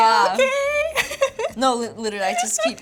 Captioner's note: giggles